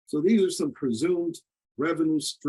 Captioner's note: none